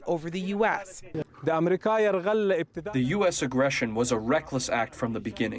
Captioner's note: through translator